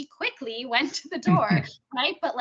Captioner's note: chuckling